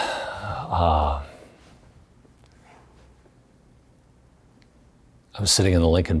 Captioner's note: sighing